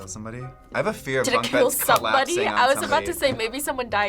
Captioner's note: laughs